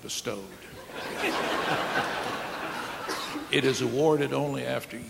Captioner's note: audience laughing